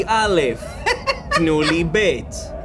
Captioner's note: laughs